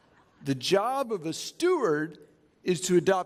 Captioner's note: chuckling